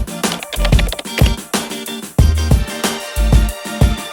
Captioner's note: keys tapping